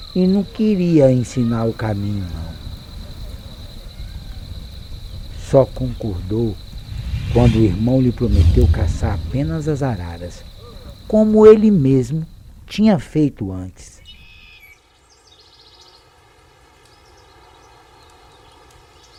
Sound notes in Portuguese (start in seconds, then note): 6.7 Chama intensifica; 13.8 Canto dos pássaros